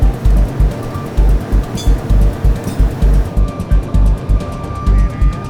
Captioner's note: tow truck winch whirring